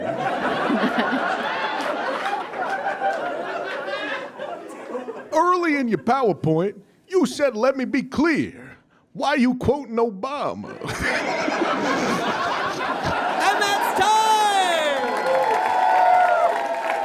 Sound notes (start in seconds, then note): 0.0 audience laughs heartily; 10.7 audience laughs uproariously; 10.7 crack up; 15.1 audience cheers and applauds